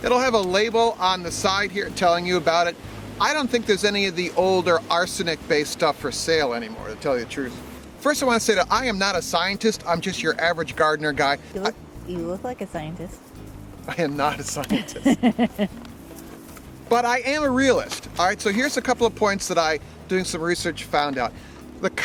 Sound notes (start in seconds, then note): 14.3 chuckles; 14.7 woman laughs